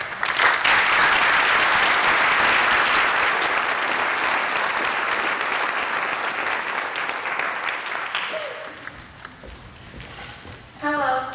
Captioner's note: applause